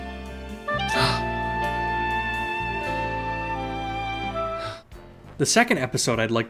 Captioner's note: gasp